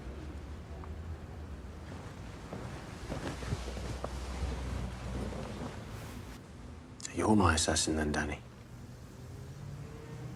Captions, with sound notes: (footsteps thudding) So you're my assassin then, Danny.